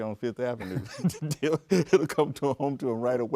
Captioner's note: both laugh